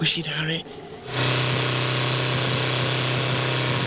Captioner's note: revving